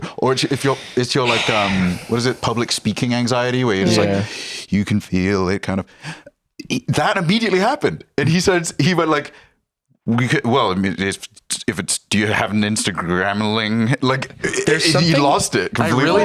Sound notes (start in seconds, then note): 10.1 stammering